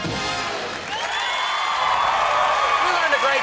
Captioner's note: audience applauds